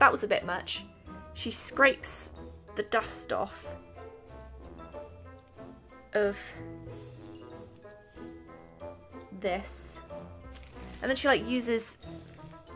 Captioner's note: long pause